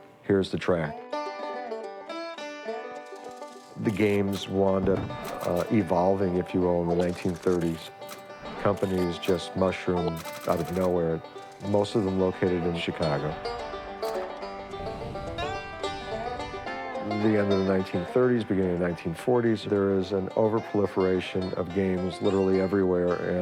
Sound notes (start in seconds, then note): 4.8 infographic mechanical clicks; 13.8 infographic sounds